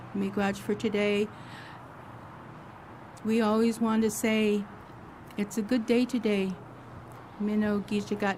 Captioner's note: speaks Idigenous language